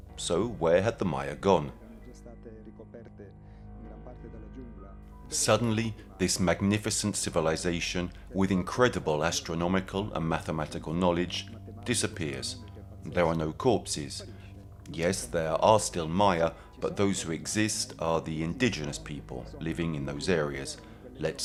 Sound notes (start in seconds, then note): 2.1 gentle music continues; 2.1 speaking in foreign language